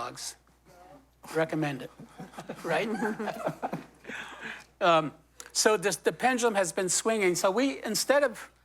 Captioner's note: laughter